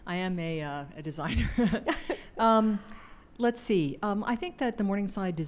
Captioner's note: laughs